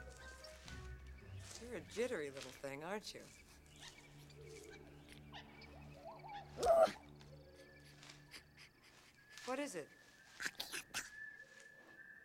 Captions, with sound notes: YOU'RE A JITTERY LITTLE THING, AREN'T YOU? OOOOH! [Sniff Sniff] WHAT IS IT? [Speaking Ewokese]